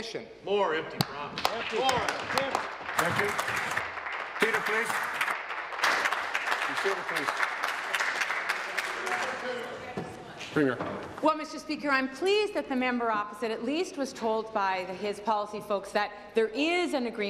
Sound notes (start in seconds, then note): 4.8 applause